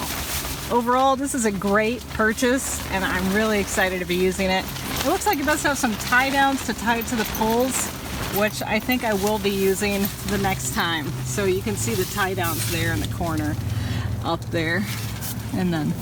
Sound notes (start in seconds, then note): none